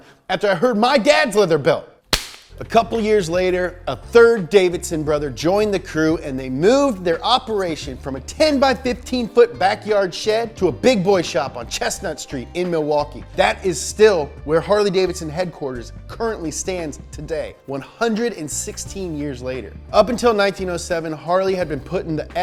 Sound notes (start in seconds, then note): 2.1 belt slapping